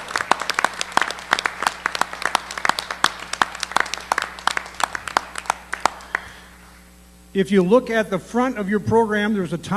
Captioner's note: cheers & Applause